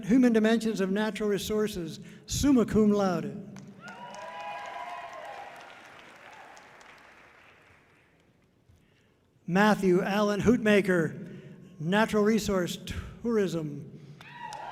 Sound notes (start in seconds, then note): 3.8 audience cheering loudly; 14.2 audience cheering loudly